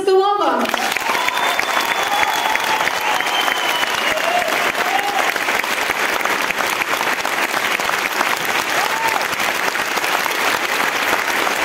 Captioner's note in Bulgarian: аплодисменти